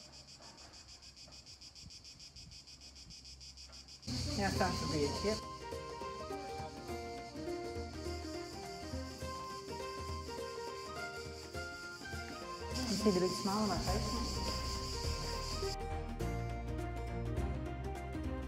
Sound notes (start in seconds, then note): 8.3 crickets chirping loudly